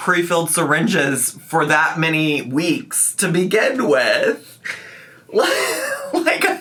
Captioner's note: laughs